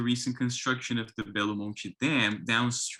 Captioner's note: speaks in foreign language